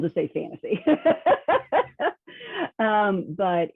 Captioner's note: laughing